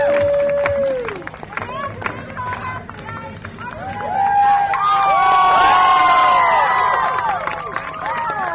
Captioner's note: cheers